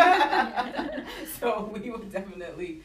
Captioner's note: laughter